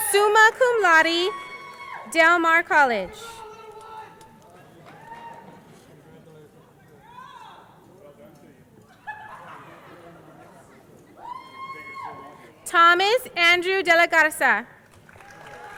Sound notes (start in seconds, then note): 5.7 crowd laughing